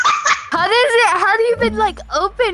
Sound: laughter

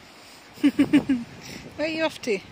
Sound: chuckles

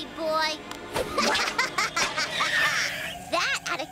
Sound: laughing evilly

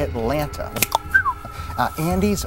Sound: cluck-snap-whistle!

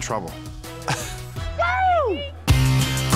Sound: laughs; yells

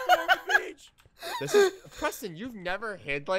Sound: cracking up

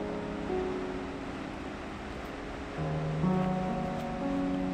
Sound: rocks crunching

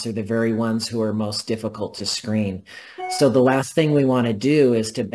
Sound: electronic tone

